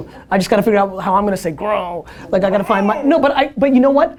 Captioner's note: growls